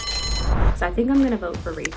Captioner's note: bell dinging